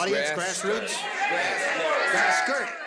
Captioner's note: audience shouting